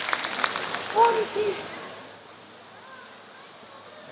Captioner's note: applause